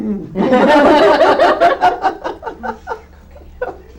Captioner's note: all chuckle